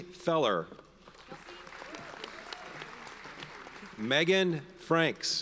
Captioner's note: audience applauds